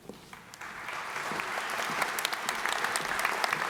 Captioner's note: applause